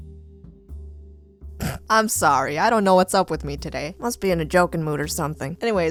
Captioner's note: snort